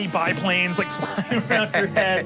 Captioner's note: planes buzzing